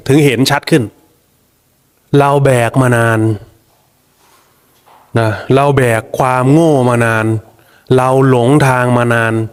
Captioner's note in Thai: เสียงสูดหายใจ